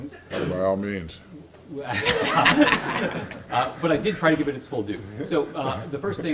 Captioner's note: laugh